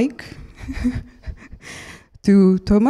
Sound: laughs

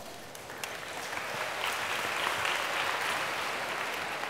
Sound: applause

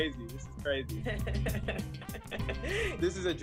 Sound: laughing

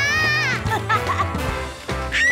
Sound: screaming; laughing

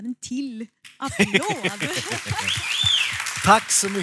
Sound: applåder

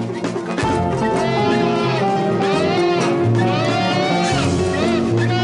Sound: screaming

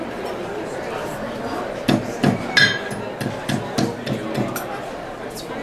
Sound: hammering sound

